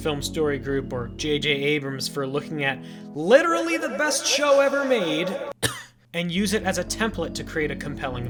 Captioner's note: cough